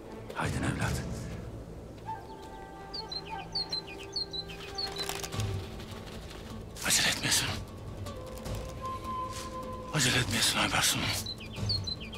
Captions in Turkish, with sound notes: Hadi evlat. (Kuşlar ötüyor) Acele etmeyesin. Acele etmeyesin Aybars'ım.